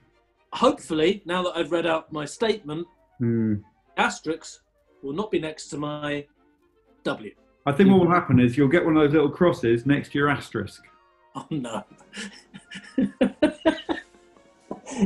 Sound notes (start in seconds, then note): 11.4 chuckling; 12.0 giggling